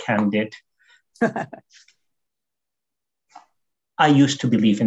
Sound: chuckles

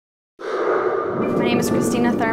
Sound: thunder

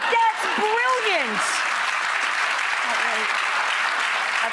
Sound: audience clapping

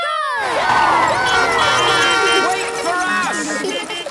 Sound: beeping; laughter

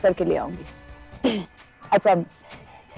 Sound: clears throat

